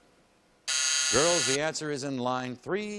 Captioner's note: buzz